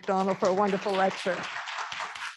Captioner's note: applause